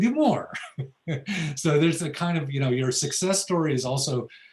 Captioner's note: laughs